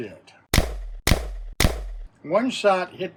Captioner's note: gun shots